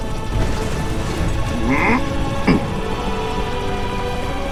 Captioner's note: grunt